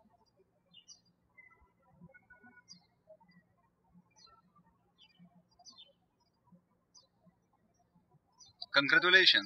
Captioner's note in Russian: птички щебечут